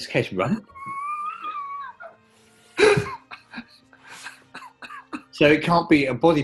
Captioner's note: sniggering